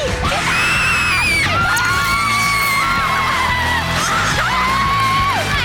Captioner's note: yelling